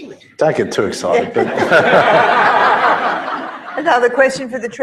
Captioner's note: laugh